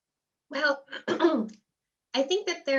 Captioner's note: clears throat